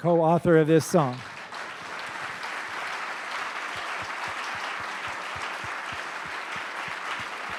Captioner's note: applause